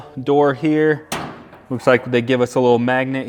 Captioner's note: door clanks